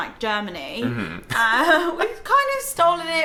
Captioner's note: laughs